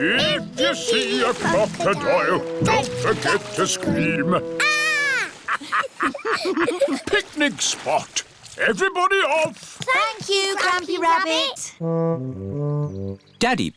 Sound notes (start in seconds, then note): 5.3 laughter